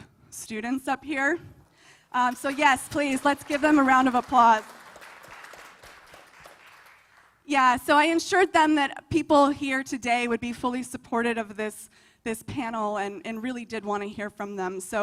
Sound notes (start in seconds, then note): 5.4 applause